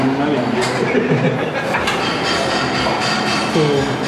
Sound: giggling

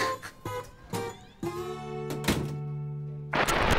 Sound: door closes

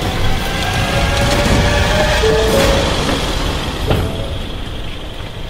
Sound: engine revving

